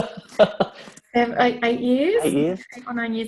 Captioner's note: laughs